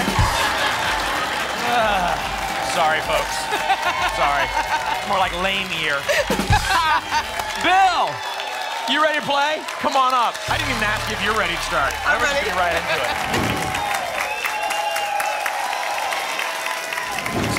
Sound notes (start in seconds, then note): 0.2 laughter; 1.8 groans; 6.0 laughter; 14.1 applause and cheering cont